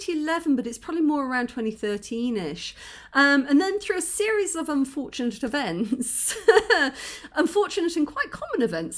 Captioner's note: laughing